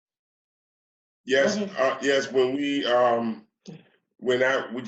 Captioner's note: sighs